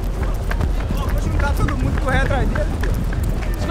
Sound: camera jostling

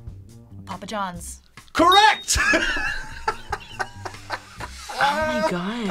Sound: laughs

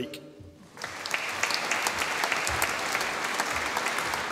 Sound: audience applauding

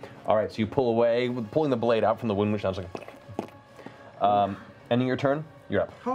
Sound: dripping sound

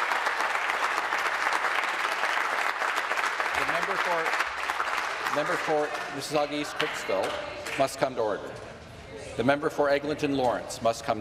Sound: applause

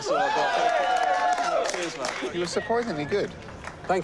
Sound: cheers and applause

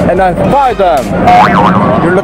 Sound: boinging sound

